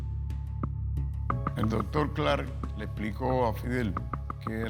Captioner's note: speaking Spanish